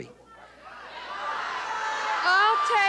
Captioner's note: audience yelling